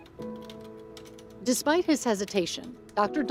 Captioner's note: keys clicking